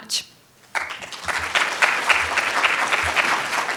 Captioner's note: applause